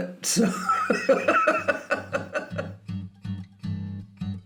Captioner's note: laughing; upbeat music